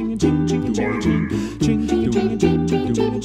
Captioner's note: low voice